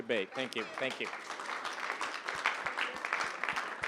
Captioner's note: applause